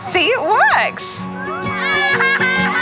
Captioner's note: children laugh